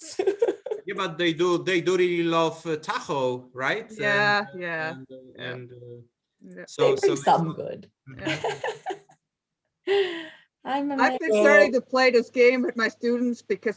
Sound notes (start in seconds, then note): 8.6 laughs